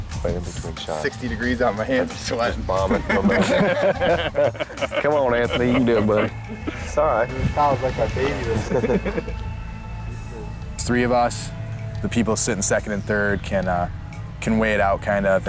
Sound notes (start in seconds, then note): 4.3 lalaugughthterer